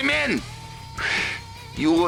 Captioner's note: inhales